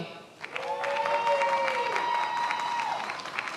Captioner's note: many applauding